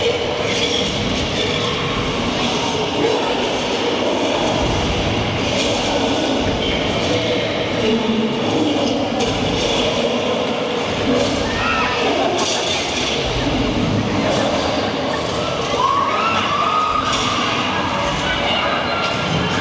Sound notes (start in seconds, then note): 11.6 metal banging; 11.6 people screaming